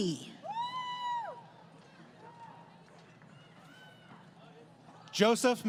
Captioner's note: crowd Cheering